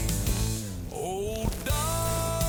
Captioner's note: gun firing